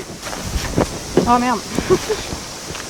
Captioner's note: laugh